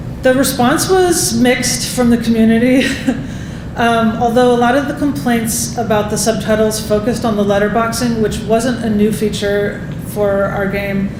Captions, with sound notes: The response was mixed from the community. [Laughing] Although a lot of the complaints about the subtitles focused on the letterboxing, which wasn't a new feature for our game,